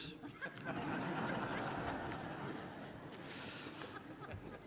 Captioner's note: audience laughing